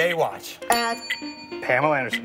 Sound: bell dings

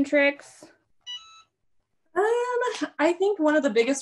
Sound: beeps

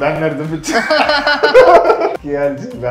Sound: laughing

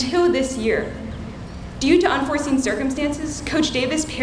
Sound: none

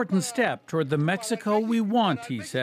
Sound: speaking spanish

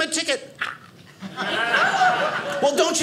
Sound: audience laughing

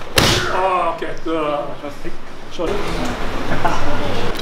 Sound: speaking in Japanese

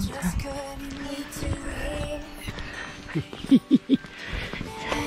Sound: laughs

